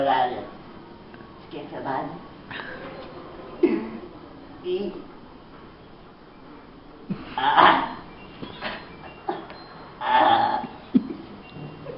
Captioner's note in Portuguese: gemidos